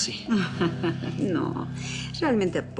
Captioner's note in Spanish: Risas